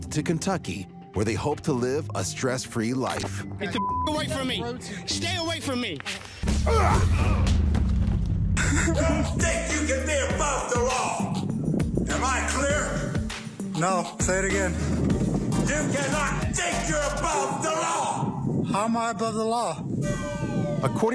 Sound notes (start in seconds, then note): 3.6 beep